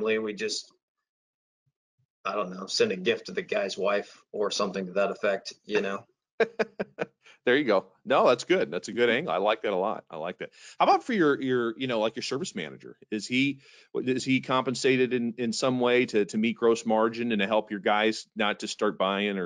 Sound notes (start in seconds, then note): 6.4 laughing